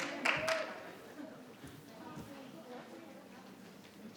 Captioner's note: participant clapping